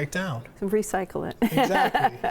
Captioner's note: laughs